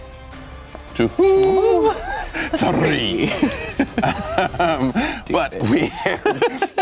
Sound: laughing

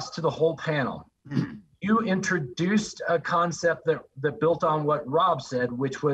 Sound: cough

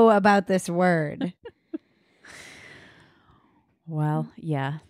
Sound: laughing

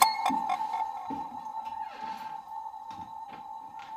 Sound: ominous sound; door opening

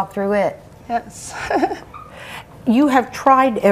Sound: laughing nervously

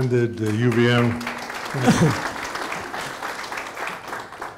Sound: audience laughing

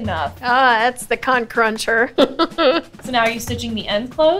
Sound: laughs

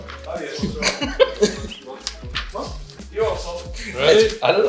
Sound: people laugh

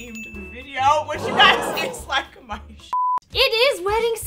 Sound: beep

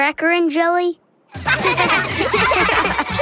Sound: laughing

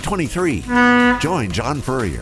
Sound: ship honking

